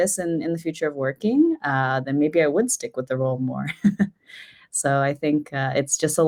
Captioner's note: chuckles